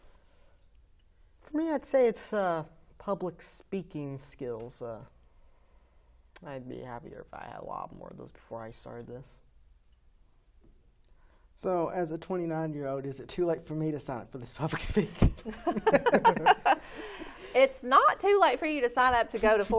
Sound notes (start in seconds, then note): 15.2 chuckling; 15.4 laughing